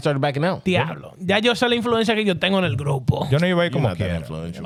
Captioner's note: speaking In Foreign Language